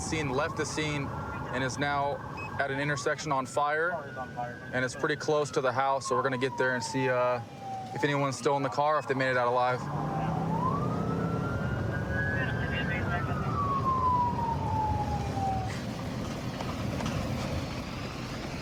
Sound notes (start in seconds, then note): 9.6 police sirens blaring; 12.3 dispatch chatter